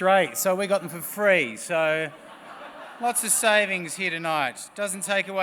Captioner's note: laughs